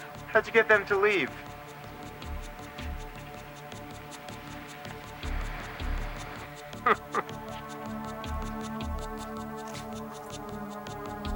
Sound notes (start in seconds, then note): 6.7 chuckles